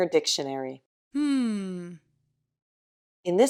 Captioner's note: "hmm" sound